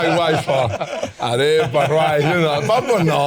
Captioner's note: speaking Spanish